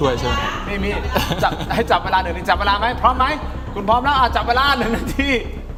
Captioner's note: laughter